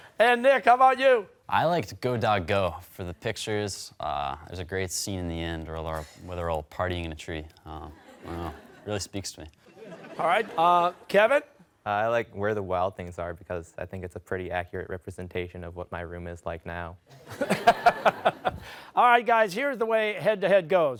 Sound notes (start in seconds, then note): 9.6 laughter; 17.1 laughter